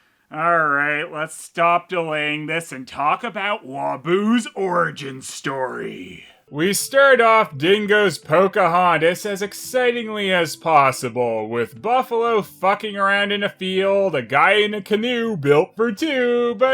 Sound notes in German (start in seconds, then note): 6.4 'Voice-Over